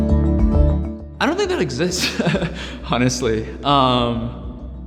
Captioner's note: upbeat music; laughing